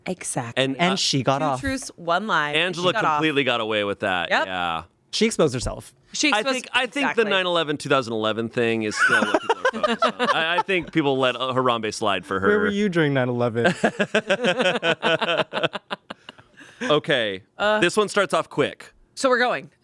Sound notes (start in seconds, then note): 13.6 everyone laughs